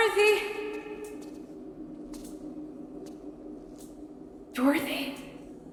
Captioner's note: lights buzzing; suspenseful music